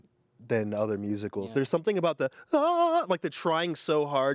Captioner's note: vocalizes